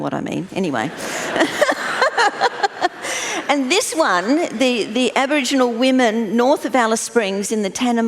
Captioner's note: laughter